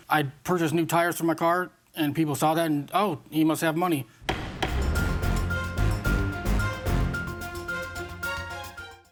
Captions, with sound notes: I purchased new tires from my car, and people saw that, and, "Oh, he must have money." (gavel bangs) (rousing music)